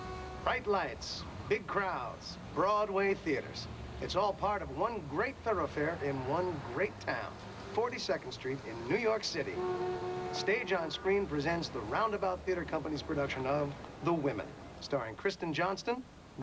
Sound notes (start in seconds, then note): none